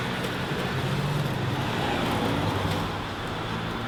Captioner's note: engine roaring